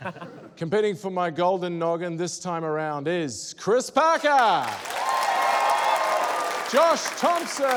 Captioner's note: cheering, applause